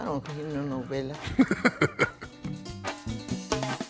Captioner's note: laughs